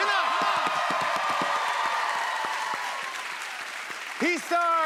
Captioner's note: cheers and applause